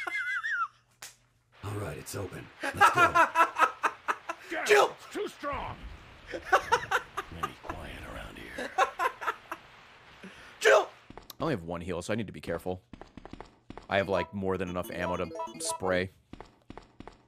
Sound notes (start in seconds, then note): 0.0 laughs; 8.4 laughs